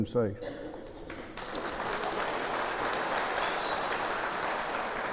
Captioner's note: applause